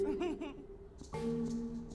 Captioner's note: soft chuckles; string instrument